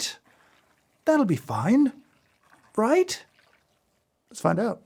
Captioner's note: coffee pouring